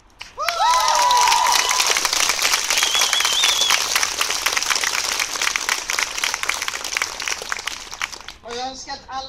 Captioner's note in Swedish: Jubel och applåder